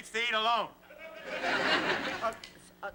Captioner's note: laughter